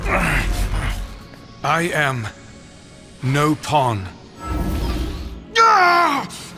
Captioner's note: regular voice